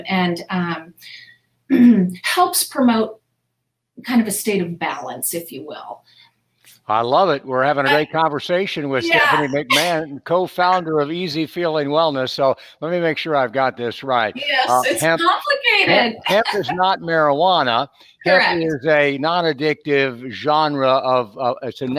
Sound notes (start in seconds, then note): 9.1 chuckles; 15.8 laughs